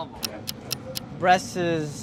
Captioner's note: clock ticks